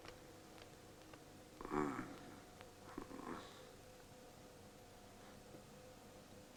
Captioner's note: whimpering